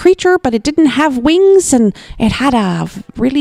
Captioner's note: none